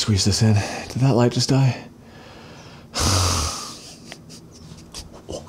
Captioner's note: sighs